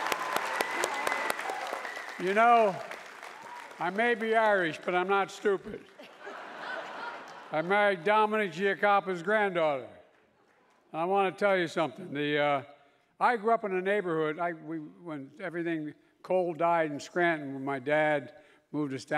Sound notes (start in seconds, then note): 0.0 applause continue